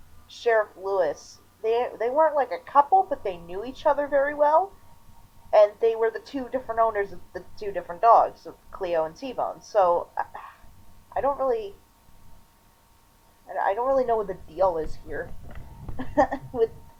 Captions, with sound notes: Sheriff Lewis, they- they weren't like a couple, but they knew each other very well. And they were the two different owners of the two different dogs, Cleo and T-Bone. So... (sighs) I don't really... I don't really know what the deal is here. (chuckling) With...